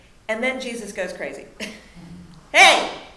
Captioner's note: chuckling